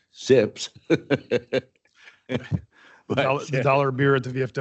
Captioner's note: chuckles